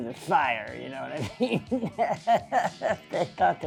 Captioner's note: laughs